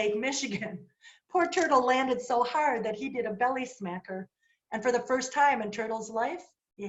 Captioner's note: laughter